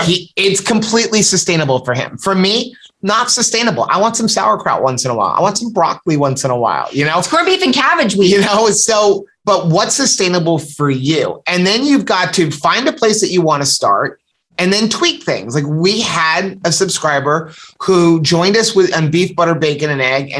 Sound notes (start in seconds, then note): 7.9 laughter